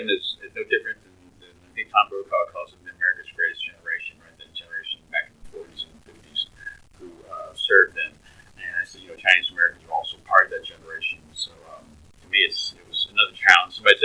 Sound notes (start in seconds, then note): 4.4 laughs